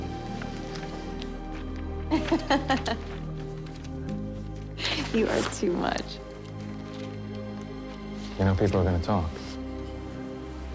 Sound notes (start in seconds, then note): 2.1 laughs